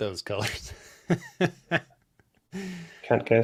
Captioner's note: laughs